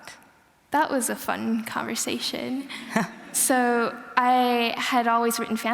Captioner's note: laughter